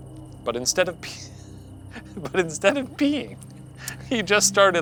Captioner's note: laughing